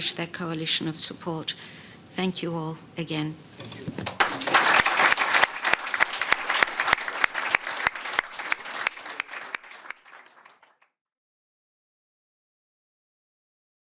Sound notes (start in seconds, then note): 4.0 panellists applauding